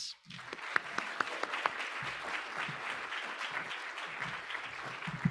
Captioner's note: audience applauding